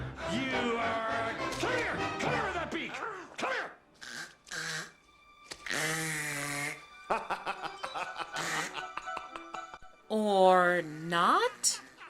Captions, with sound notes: You are a- Clear! Clear the beak! Clear! -[choking sounds] -[laughing] -Or not?